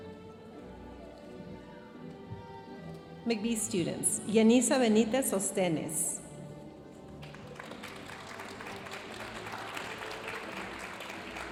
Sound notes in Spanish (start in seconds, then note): 3.4 hablando en inglés; 7.2 aplausos de la audiencia